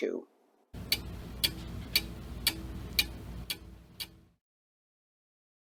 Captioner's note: clock Ticking